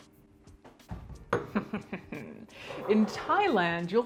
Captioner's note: chuckling